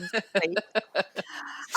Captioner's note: laughs